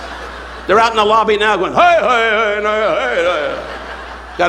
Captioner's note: imitates Native American chanting